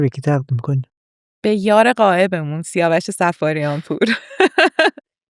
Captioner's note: laughs